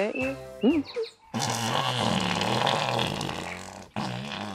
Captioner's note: farts loudly